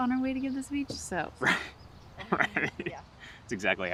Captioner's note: chuckles